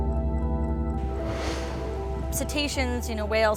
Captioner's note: water spraying